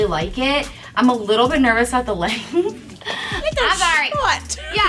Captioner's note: laughs